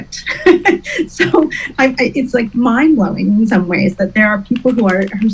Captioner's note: laughs